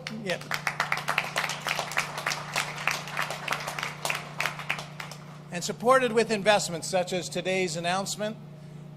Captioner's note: applause